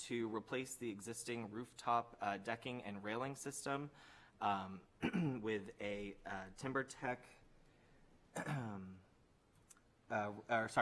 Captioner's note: clears throat